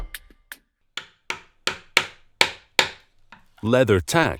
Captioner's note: hammer banging